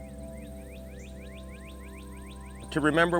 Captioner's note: birds chirping